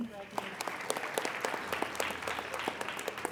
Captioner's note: applauding